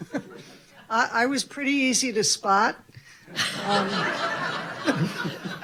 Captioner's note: laughing; all laughing